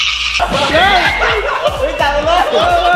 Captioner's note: screams; laughs; Pat